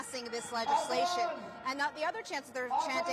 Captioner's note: crowd chanting